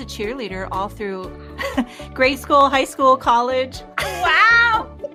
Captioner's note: person laughing; laughs